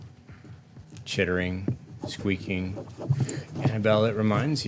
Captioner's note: scratching